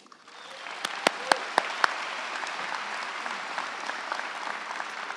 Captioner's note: crowd cheering and applauding